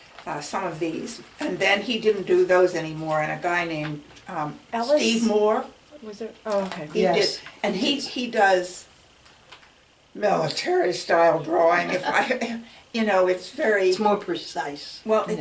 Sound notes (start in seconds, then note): 8.8 deep voice